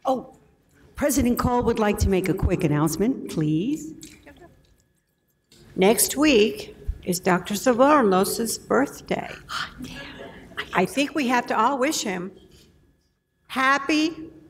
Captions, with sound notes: President Call would like to make a quick announcement. Please. - Next week, is Dr. Svoronos' birthday. - (whispers) Hot damn. - I think we have to all wish him happy